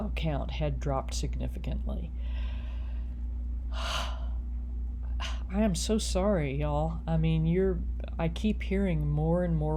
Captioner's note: sigh